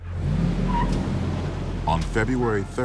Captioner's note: tires squeaking